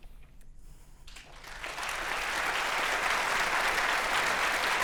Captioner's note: audience applauding